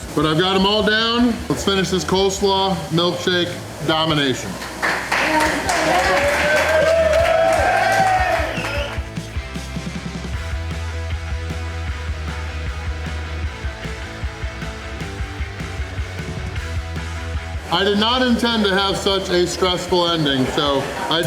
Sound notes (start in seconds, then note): 4.1 crowd applause